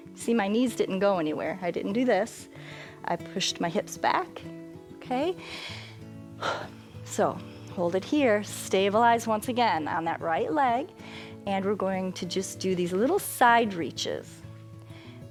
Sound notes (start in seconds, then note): 6.4 inhales and exhales